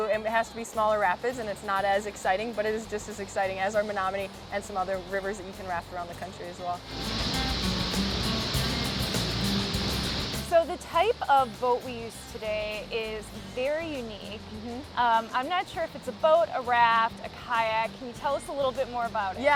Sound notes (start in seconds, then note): 8.1 upbeat music; 8.1 water rushing